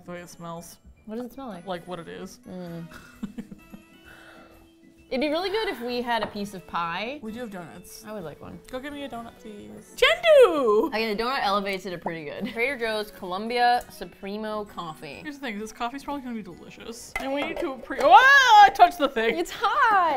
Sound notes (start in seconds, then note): 2.8 laughs; 3.3 hums knowingly; 9.5 excitedly